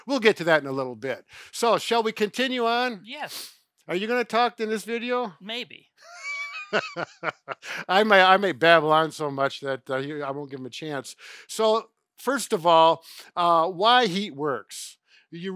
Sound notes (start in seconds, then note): 6.0 chuckles